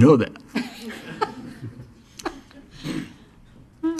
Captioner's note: laughing